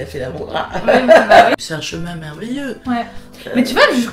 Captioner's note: laughter